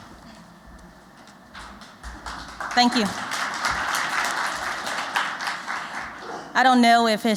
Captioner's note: applause